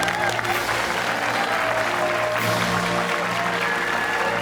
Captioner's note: fanfare plays; cheers and applause